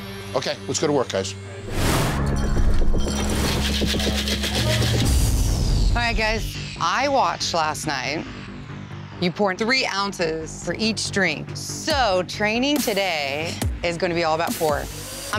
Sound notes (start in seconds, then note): 2.1 ice clunking; 3.4 ice shaking